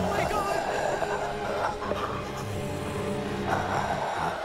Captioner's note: mummy growling